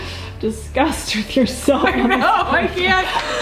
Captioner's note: laughter